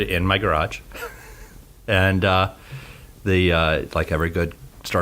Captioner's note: he laughs